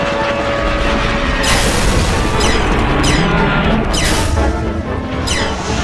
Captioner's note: explosion; gunfire